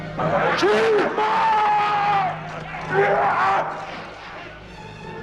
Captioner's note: shouts